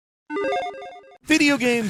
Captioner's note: digital video chime